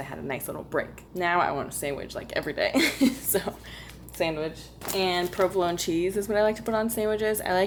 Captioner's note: laughter